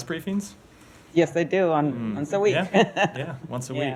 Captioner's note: laughter